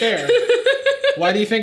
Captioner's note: Sadie laughing